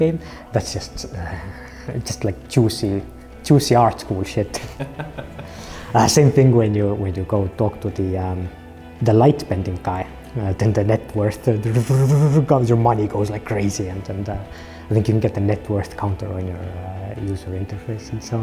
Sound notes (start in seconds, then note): 4.5 laughter; 11.4 whirring